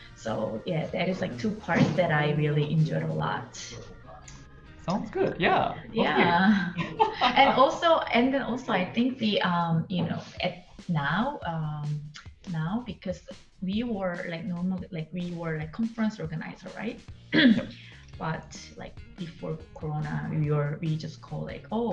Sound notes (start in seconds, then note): 6.7 man laughing